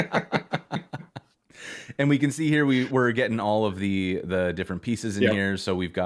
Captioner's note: laughter